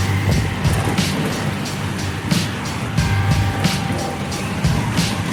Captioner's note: motorcycles revving; upbeat music